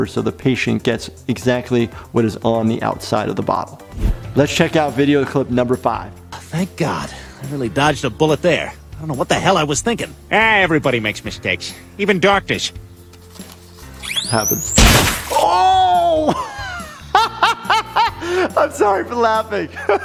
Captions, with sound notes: so the patient gets exactly what is on the outside of the bottle. Let's check out video clip number five. - Thank God. I really dodged a bullet there. I don't know what the hell I was thinking. - Eh, everybody makes mistakes. Even doctors. - Happens. (splats) Oh! (laughs) I'm sorry for laughing.